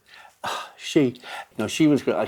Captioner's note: sighs